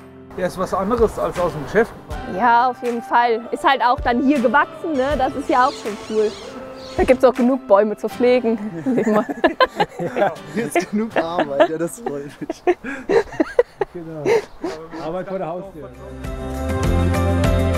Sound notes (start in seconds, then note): 8.6 laughter; 16.2 dynamic Music